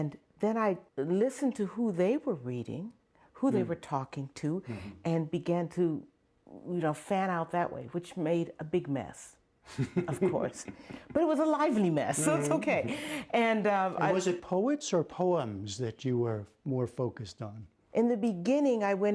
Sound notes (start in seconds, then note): 9.7 laughter